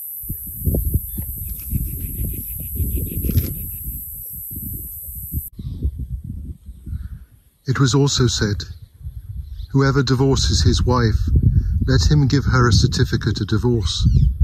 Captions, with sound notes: (birds singing) It was also said, whoever divorces his wife, let him give her a certificate of divorce.